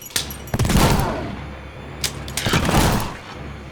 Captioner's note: gun firing; groaning; gun firing